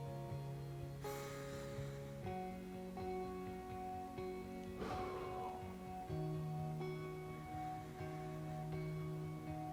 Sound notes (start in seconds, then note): 1.0 inhaling; 4.7 exhaling; 7.3 calm music